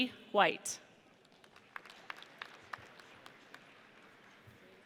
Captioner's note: audience applauds